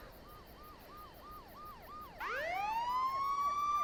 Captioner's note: sirens